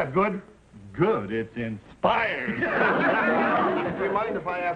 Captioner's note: audience laughing